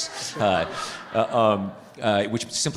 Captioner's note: participants laughing